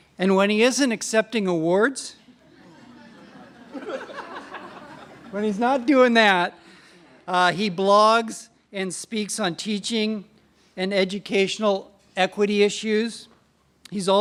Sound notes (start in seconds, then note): 2.3 laughter